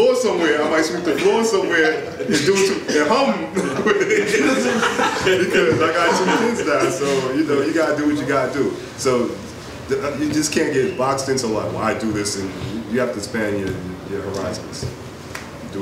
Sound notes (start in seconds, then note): 4.0 audience laughs